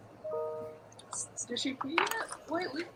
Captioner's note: notification dings